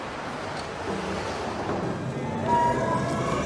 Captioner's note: streetcar sounds